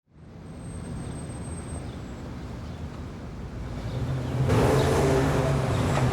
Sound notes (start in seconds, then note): 0.4 vehicles rumbling